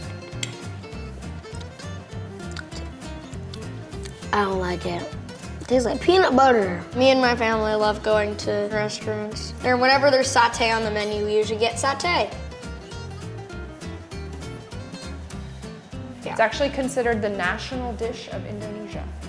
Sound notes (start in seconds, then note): 0.0 clinking; 2.2 smacking lips